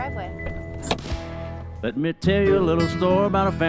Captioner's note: car door clicks